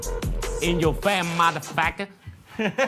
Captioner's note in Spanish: habla en inglés